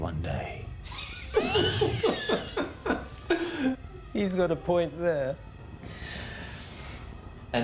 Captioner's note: laughs